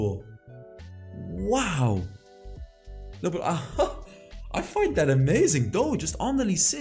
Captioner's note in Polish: śmiech